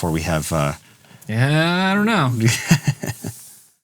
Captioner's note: laughing